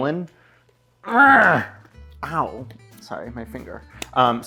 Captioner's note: groans